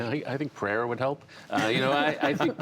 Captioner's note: laughter